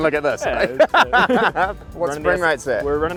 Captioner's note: laughing